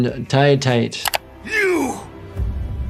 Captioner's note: mouse clicking